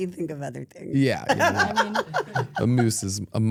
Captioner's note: laughs